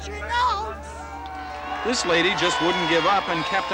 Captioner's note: cheering